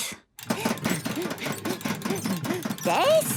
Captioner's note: panting